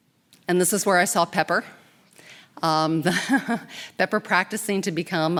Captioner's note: laughing